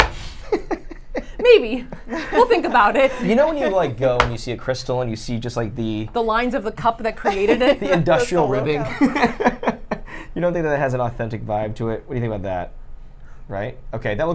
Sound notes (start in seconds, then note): 0.4 laughs; 7.2 laughs